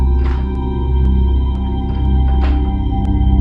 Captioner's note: knob jiggling